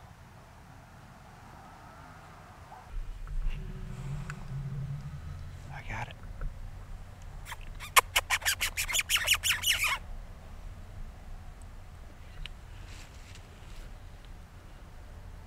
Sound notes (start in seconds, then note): 7.4 squeaking